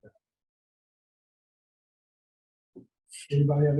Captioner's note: audio drop